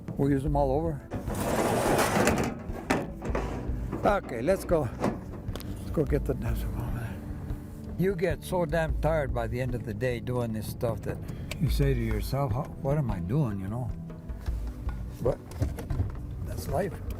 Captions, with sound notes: We use them all over. (pipe clanging) Okay, let's go. Let's go get the dams from over there. You get so damn tired by the end of the day doing this stuff that you say to yourself, "What am I doing?" But that's life.